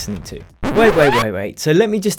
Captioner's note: record scratching